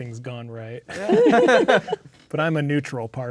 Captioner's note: players laughing